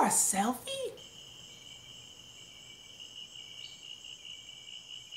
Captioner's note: crickets chirping